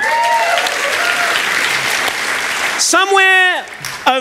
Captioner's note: applause